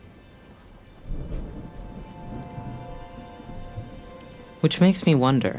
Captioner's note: thunder rumbling